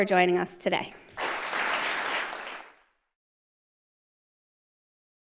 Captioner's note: audience applauding